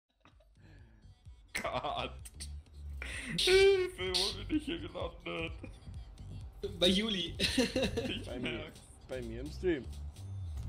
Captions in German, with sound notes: Oh Gott. Hilfe, wo bin ich hier gelandet? Bei Juli [Lachen] Ich merks Bei mir im Stream